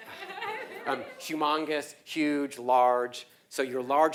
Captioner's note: laugh